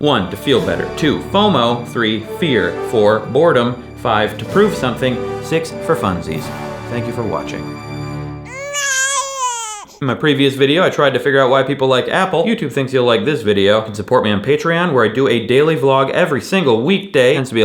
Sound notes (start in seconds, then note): 0.1 inspirational music; 8.4 baby crying